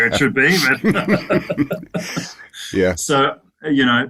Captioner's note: laughing